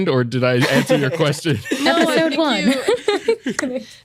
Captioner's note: laughter